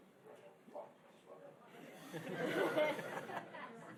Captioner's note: laughing